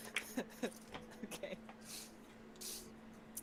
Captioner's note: still laughing